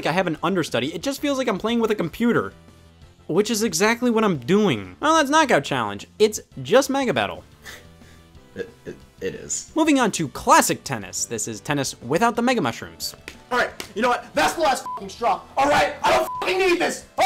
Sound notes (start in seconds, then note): 8.5 chuckles; 16.0 beep